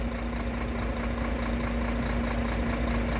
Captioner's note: truck noises